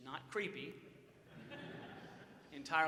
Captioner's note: audience laughs